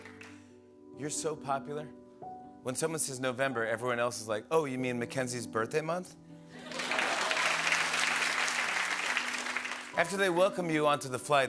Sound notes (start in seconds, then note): 6.6 applause